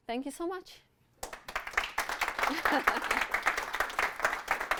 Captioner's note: audience clapping